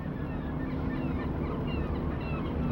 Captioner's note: seagulls